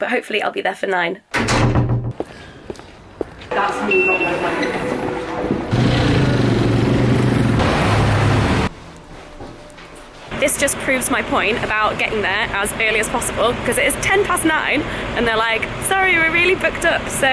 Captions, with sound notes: But hopefully I'll be there for 9:00. (beeping) This just proves my point about getting there as early as possible, because it is 10 past 9:00 and they're like, "Sorry, we're really booked up,"